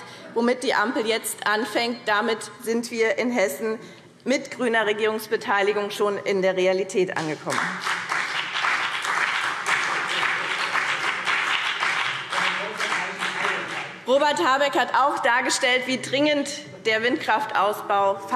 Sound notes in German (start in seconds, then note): 7.2 Beifall BÜNDNIS 90/DIE GRÜNEN und vereinzelt CDU